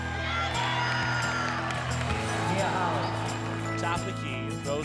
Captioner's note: crowd cheering